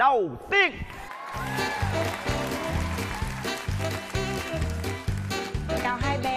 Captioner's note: applause